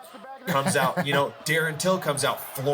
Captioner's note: laughing